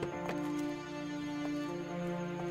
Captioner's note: night sounds